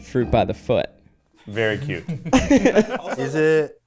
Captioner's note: people laughing